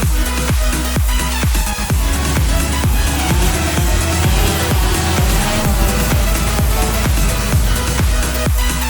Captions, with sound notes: Buzz buzz buzzzz [drone noises]